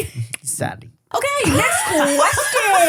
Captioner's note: laughs